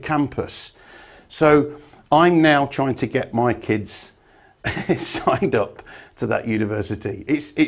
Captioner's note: laughs